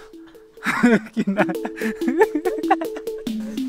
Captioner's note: laughter